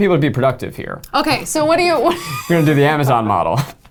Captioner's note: laughs